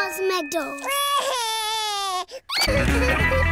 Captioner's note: cries